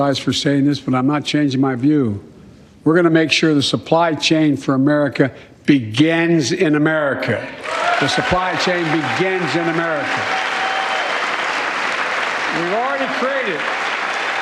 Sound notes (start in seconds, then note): 3.4 cheers and applause